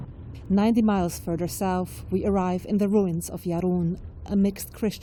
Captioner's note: voice-over